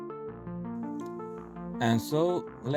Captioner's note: narrator over music